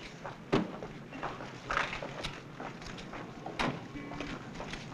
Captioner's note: car doors thudding